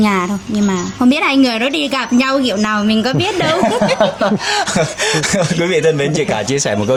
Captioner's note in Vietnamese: tiếng cười